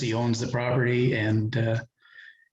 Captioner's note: none